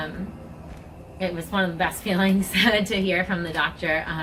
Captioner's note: laughs gently